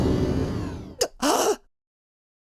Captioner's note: gasp